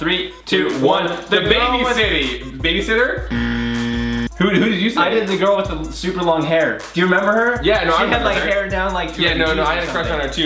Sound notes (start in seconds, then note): 3.2 loud buzzing